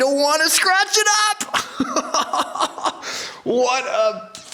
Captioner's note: laughs